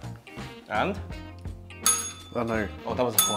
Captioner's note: bell rings